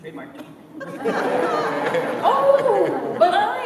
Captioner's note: laughter